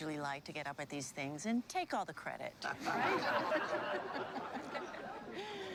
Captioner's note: laughter